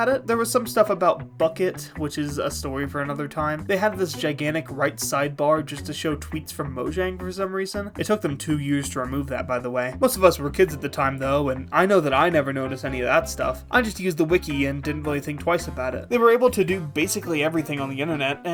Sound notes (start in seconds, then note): none